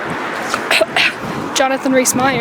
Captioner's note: accusatory cough